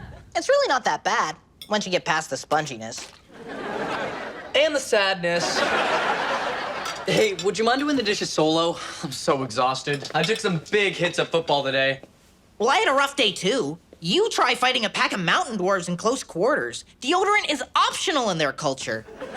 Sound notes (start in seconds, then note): 5.3 audience laughs